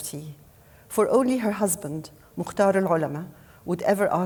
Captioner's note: speaking foreign language